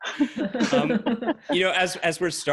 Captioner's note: people laughing